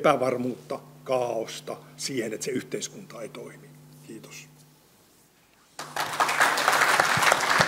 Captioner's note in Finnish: Yleisön taputuksia